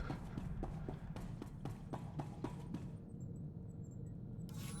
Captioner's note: footsteps